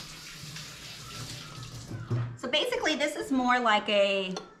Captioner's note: water runs